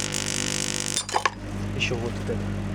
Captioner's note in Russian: стекло ломается